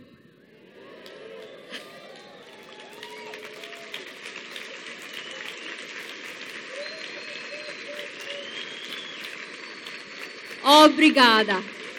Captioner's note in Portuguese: Aplausos